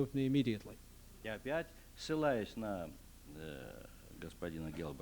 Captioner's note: non-english speech